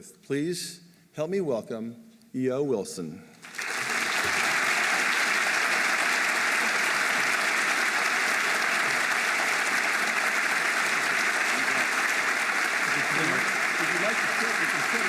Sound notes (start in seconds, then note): 3.5 applause